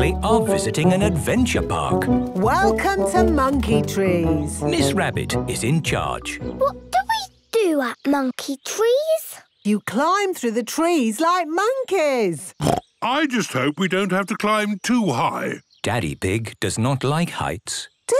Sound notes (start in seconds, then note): 12.6 snorts